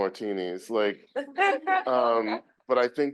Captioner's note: group laughing